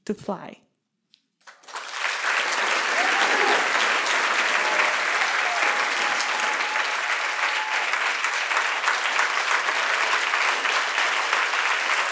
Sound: cheers and applause

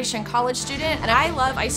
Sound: steam releasing

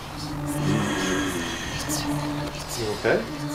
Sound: whispers; growls

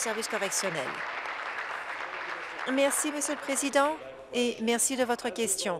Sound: applause

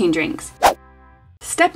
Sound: swishing

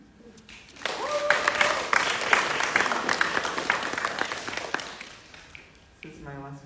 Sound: audience clapping; audience cheering

